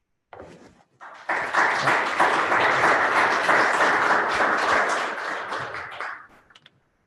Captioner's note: applause